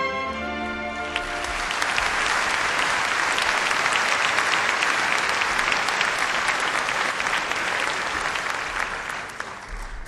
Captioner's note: applause